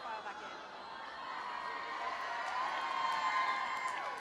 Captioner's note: more cheering